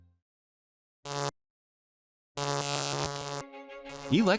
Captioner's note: electricity buzzes; gentle music